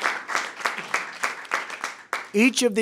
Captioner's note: applause